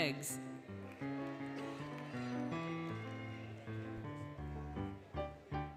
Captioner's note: applause, Cheering, Music